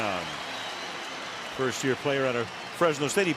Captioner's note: cheering